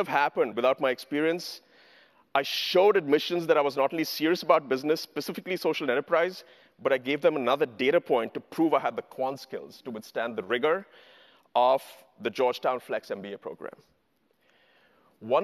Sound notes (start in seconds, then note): none